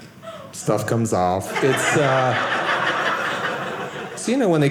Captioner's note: audience laughing